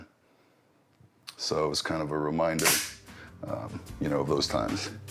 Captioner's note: gun clicks